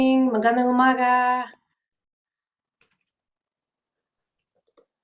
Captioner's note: speaking in foreign language